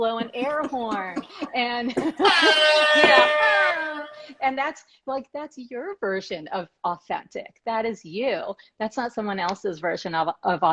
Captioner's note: air horn blasts